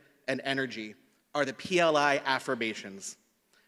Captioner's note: none